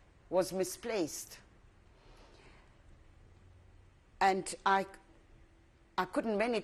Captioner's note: pauses for 3 seconds